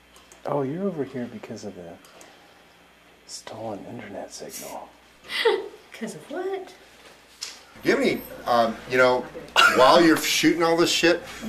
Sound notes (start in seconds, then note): 5.2 laughing